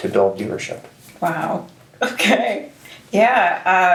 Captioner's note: chuckles